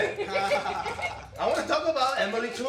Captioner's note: chuckles